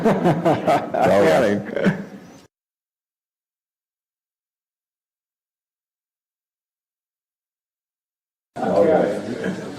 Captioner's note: laugh